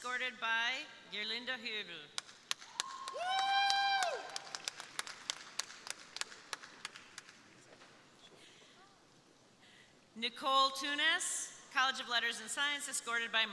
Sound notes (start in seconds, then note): 2.5 crowd applauding; 2.6 crowd cheering